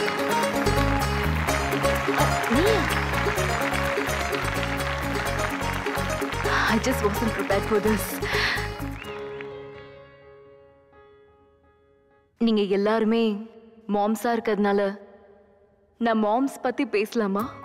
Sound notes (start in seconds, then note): 3.4 mouthing; 8.9 applause & cheering